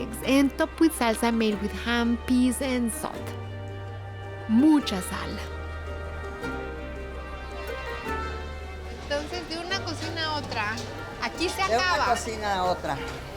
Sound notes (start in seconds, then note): 8.9 speaking Spanish